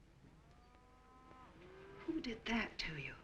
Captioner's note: cows mooing